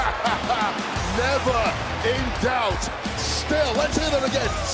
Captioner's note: laughs